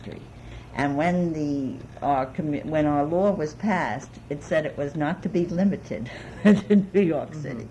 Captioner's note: laughs